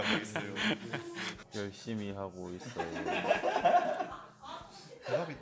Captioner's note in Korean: 웃음; 웃음